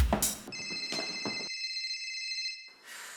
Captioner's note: phone rings